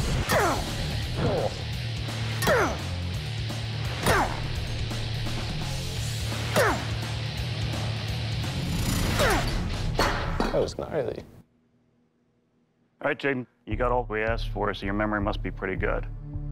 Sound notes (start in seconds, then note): 2.4 grunting; 4.4 speed metal music